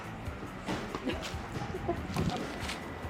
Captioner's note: lols